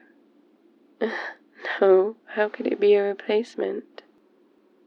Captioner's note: laughs